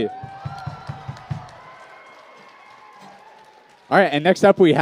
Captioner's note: cheers and applause